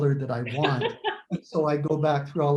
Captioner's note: laughs